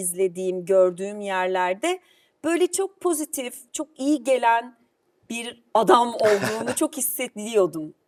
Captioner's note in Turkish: kahkaha